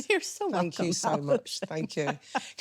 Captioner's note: laughing